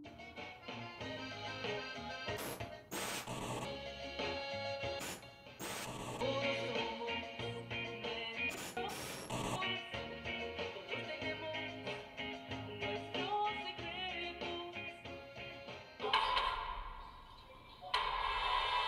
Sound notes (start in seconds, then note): 0.3 music on TV; 5.6 static